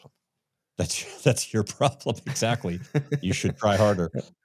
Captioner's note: laughs